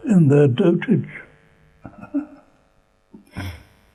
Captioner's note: laughs